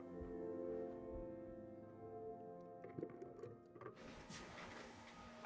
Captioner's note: footsteps approaching